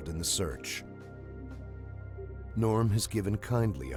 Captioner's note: voiceover